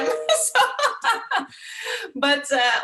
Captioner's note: laughs